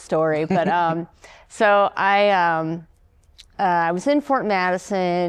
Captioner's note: laughter